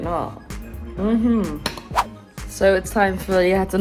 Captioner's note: fork hits plate